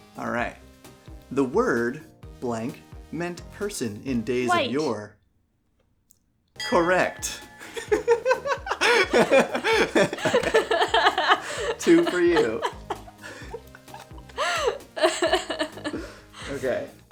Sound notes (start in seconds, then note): 8.6 both laugh